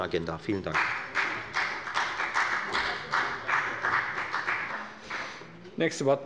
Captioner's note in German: Beifall bei der FDP